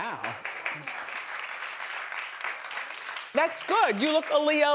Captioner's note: audience applauds